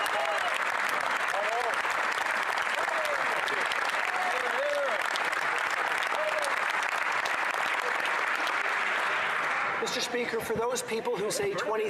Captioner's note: applause